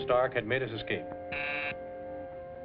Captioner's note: buzzer